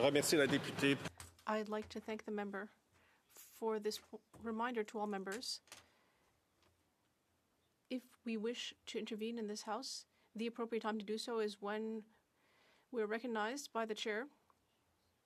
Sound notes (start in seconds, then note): 4.1 speaking French